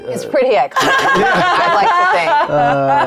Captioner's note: players laughing